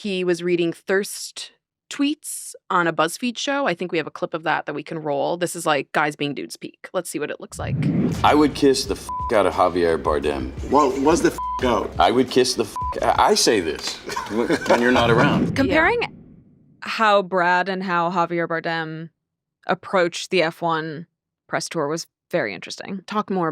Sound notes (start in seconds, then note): 7.5 screen whooshing; 11.3 beep